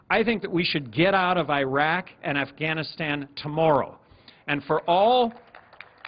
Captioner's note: applause